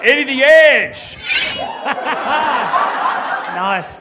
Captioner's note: knife slicing sound